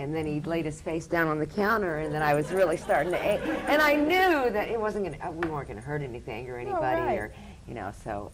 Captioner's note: laughter